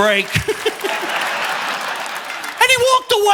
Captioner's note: audience laughing; chuckles